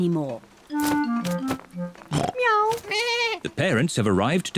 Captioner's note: all makes animal sounds